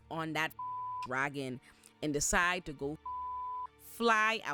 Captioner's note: beep; beep